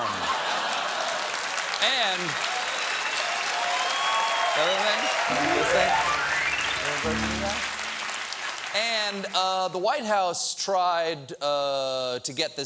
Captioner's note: applause; piano riff